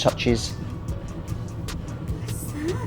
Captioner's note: washing machine hums